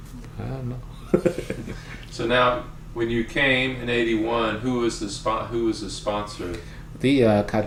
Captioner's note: laughs